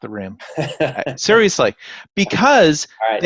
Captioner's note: laughing